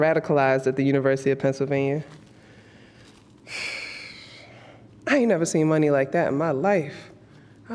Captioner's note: sighs